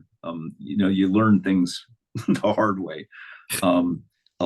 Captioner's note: chuckles